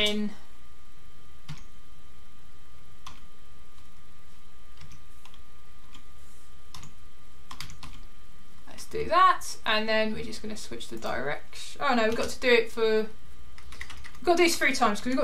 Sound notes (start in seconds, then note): 1.5 keyboard clicking